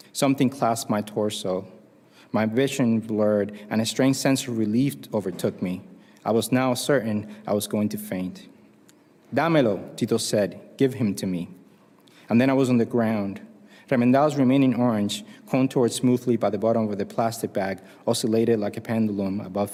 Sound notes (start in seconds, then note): 9.0 spanish